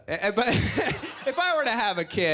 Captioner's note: laughs